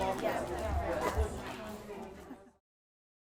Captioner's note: crowd noise ends